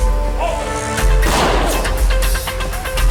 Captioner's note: gun fires